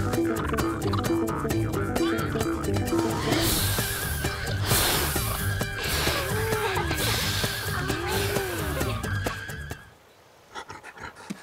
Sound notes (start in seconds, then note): 2.8 blowing; 6.5 laughing